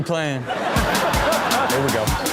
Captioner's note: audience laughs